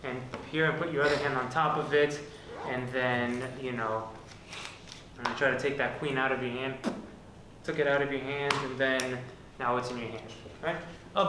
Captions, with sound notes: and here, put your other hand on top of it, and then I try to take that queen out of your hand, took it out of your hand and then (fingers snap)? Now what's in your hand?